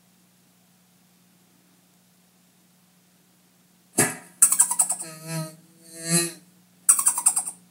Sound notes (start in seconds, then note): 0.0 silent; 4.4 insect laughing; 4.4 fly buzzing again; 6.9 insect laughing again